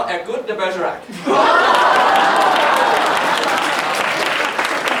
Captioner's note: laughter